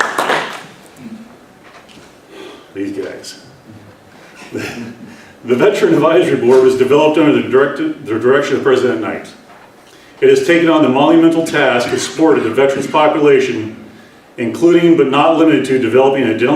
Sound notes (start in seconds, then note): 4.2 laughs